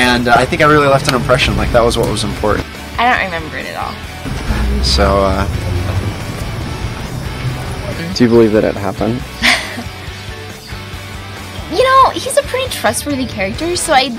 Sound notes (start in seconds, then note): 9.3 laughing